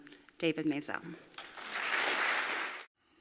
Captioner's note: applause